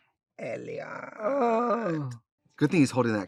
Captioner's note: Katya groans in mock ecstasy